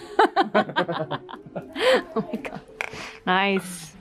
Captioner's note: laughing